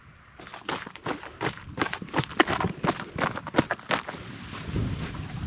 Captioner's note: footsteps on sandy road